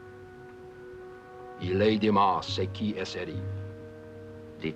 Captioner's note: speaking french